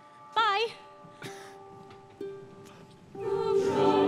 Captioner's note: bells tolling